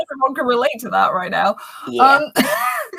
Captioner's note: laughs